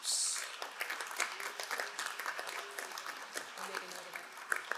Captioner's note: crowd applauding